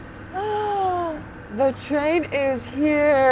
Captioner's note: person gasping